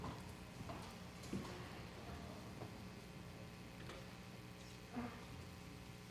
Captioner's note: audience murmuring